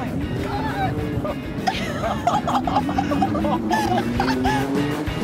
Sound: laughter

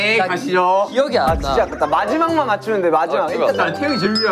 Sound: frustrated

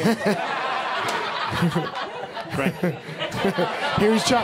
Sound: audience laughing

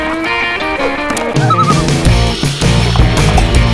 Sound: loon call

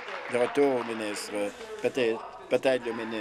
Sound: applause

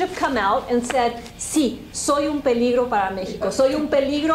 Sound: speaking spanish

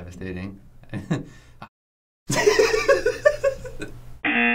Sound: laughs; buzzer rings

